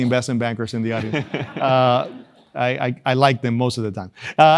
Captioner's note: laugh